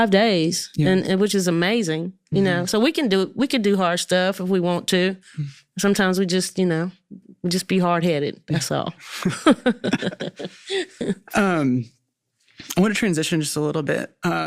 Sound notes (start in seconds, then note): 9.0 both laughing